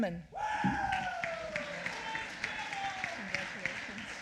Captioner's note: applause